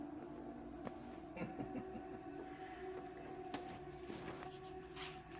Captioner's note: Perez laughs